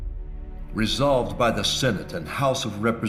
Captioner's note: voiceover